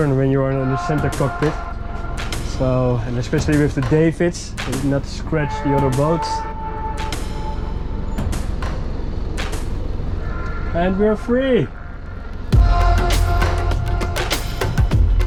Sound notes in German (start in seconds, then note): 4.1 murmelt; 12.5 beschwingte Musik